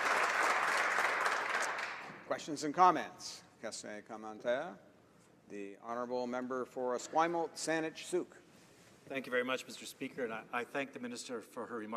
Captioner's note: applause